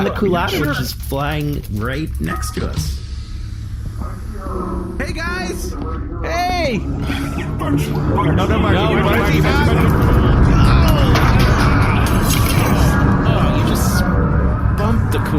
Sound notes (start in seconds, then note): 6.0 shouting and waving